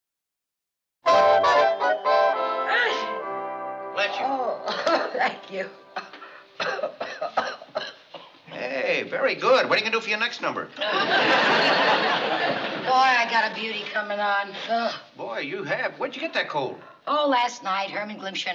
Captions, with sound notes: [SNEEZE] Bless you. Oh, thank you. [COUGHING] Hey, very good. What are you going do for your next number? Boy, I got a beauty coming on. Oh, boy, you have. Where did you get that cold? Oh, last night, Herman Glimpshire